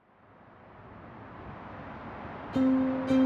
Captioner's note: air whooshing; mellow anticipatory music